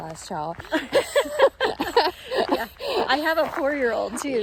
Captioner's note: both laugh